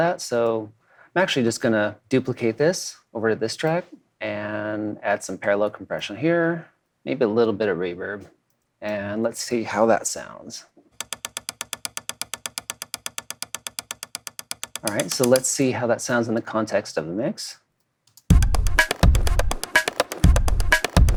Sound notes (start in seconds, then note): 11.0 poles clinking; 18.3 EDM music